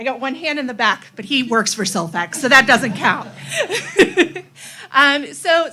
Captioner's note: laughs